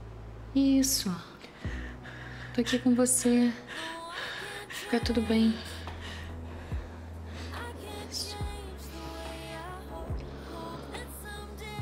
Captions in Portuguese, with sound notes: Isso! Eu estou aqui com você. (VALENTINA RESPIRANDO TENSA) Vai ficar tudo bem. (VALENTINA RESPIRANDO MAIS CALMA) Isso.